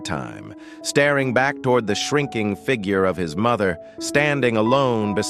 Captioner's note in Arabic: تعليق صوتي